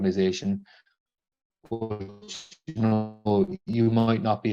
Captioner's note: glitches